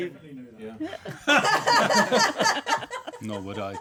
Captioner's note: laughter